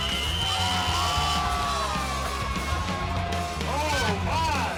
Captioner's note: whistle blows; crowd cheers